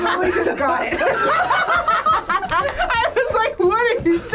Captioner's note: group laughs